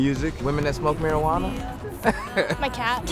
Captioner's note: laughs